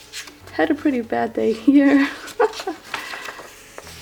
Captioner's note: laughs